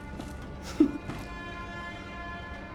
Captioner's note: giggle